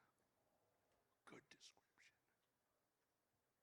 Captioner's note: whispering